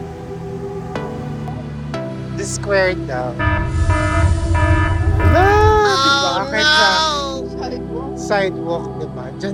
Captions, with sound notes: It's Desquared [Warning SFX] Whoa even in [Motorcycle engine] [Oh no SFX] Sidewalk. Sidewalk, right